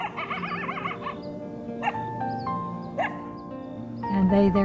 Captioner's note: coyotes yapping